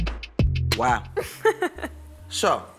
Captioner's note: laughing